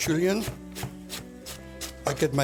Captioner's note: chopping